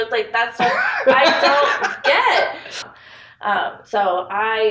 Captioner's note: laughs